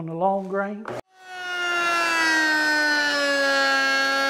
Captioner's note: machine running